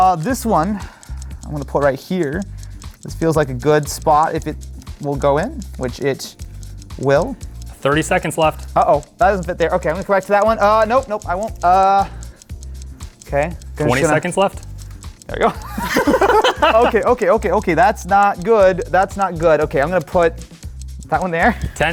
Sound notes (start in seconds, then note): 15.5 laughing